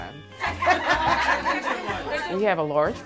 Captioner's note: laughing